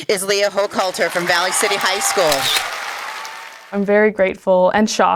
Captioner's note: loud applause